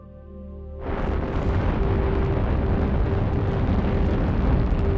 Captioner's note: rocket launching